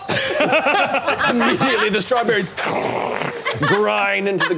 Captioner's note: all laughing; imitates hooves grinding